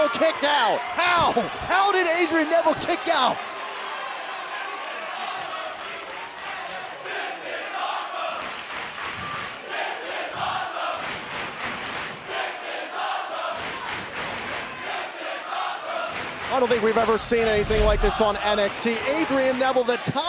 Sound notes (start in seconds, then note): 6.7 fans chanting